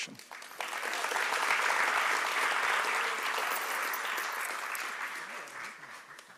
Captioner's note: applause